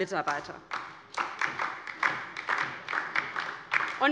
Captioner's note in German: Beifall DIE LINKE